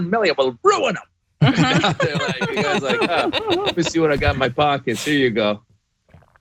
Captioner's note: laugh